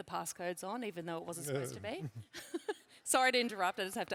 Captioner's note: laughs